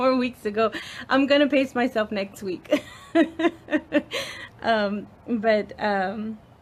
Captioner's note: laughs